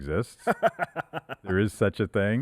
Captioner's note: laughing